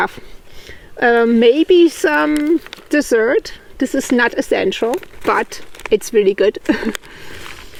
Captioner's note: laughs